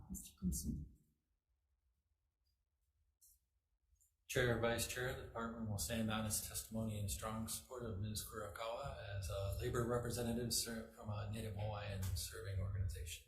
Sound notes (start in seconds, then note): none